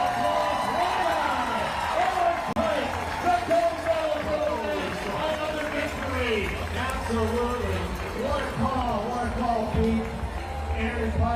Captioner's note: cheers and applause